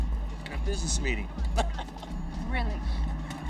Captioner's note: laughs